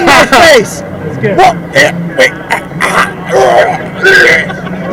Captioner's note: grunting